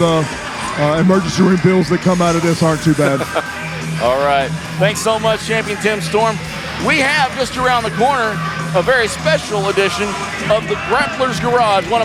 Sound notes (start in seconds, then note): 2.7 laughing